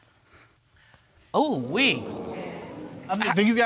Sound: audience exclaims

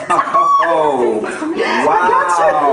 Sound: laughing

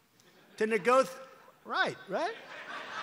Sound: laughter

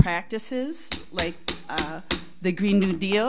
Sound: gavel bangs

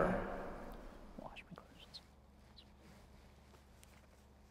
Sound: whispering

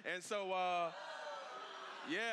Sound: congregation gasping

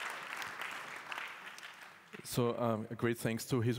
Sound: applause

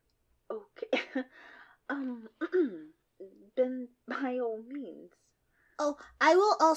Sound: scoffs and clears her throat

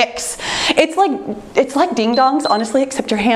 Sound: timer beeps

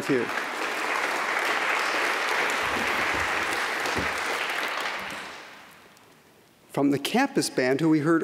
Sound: applause

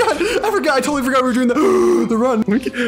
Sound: gasp

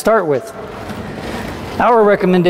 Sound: tool trolley scraping

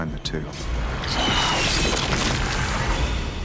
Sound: screaming

